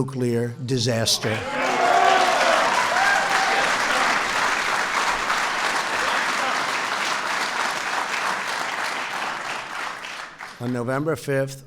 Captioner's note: applause